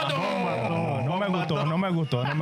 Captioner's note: speaking In Foreign Language